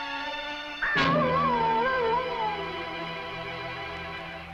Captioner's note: animal howling